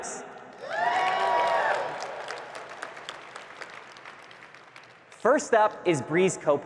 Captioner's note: audience cheering and clapping